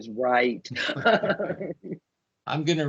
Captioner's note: laughing